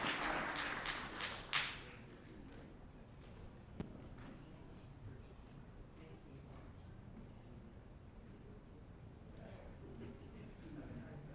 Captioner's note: applause